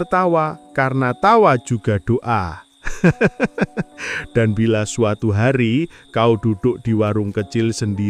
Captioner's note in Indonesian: tertawa